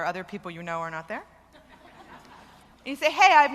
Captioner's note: laughter